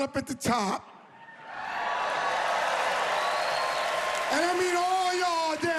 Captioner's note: cheering and applause